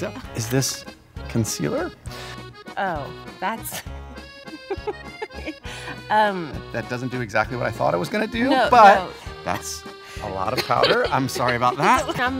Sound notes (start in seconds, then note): 4.4 laughs